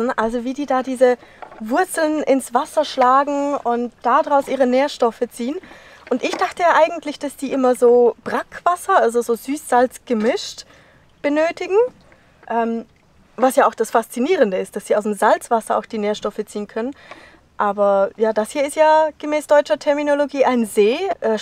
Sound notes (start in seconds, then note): none